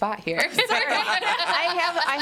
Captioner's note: all laughing